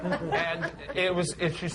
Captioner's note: laughter